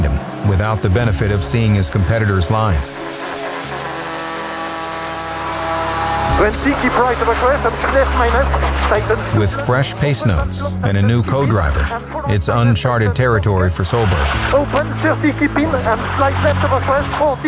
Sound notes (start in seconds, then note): 3.4 engine revving